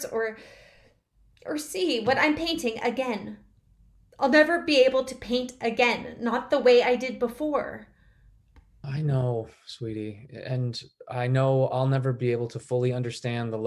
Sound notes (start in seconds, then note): none